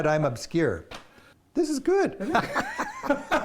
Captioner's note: laughter